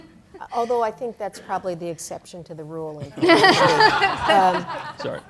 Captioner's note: laughter